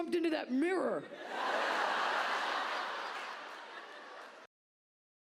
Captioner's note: audience laughs